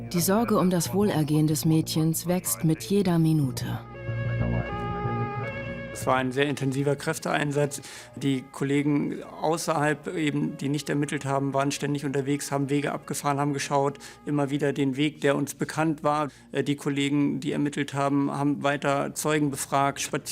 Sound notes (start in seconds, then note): 3.9 sirens